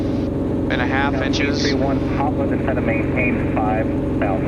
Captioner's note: radio chatter